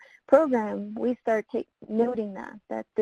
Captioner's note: voice muffled